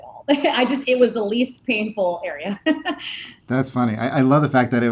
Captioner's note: laughing